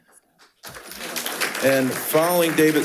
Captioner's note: attendees applauding